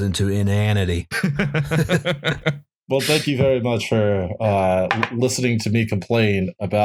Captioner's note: laughter